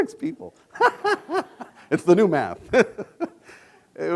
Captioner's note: laughs